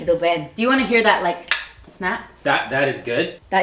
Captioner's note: snap